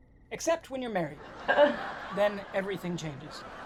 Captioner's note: laughing